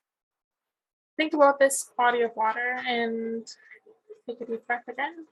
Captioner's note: none